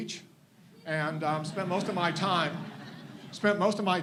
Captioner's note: audience laughs